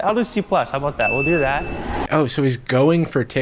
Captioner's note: bell dinging